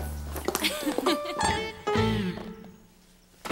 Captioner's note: girls giggling